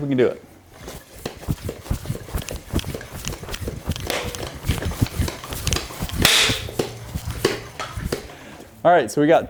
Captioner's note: air pumping